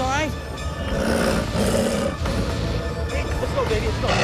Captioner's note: growling